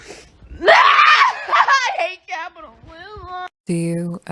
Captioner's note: screams